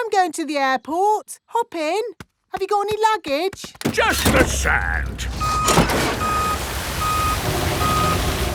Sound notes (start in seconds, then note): 5.7 beeping